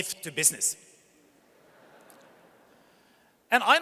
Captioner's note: audience chuckles